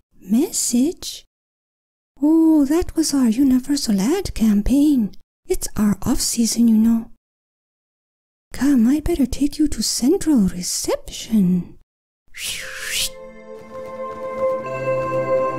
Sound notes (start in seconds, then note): 12.3 blue rat whistling; 13.0 mystical music